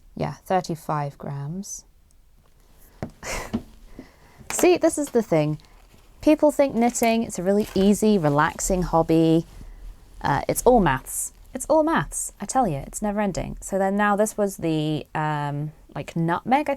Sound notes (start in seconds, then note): 2.5 laughs